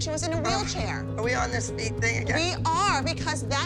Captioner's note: groans